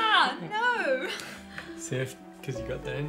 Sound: laughs

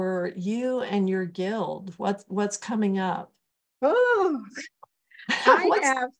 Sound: laughter

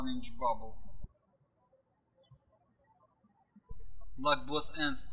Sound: birds chirping

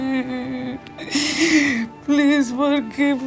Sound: crying

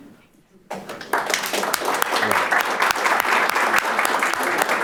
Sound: audience applauding

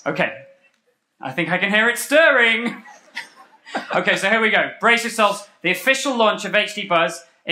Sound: laughter

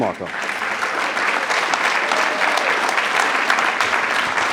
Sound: attendees applauding

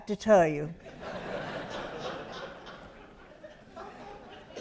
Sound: audience laughs

